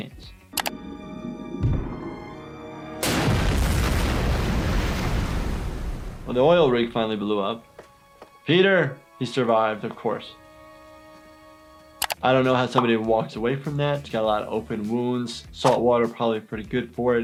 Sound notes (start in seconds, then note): 0.6 mouse clicking; 2.9 oil rig exploding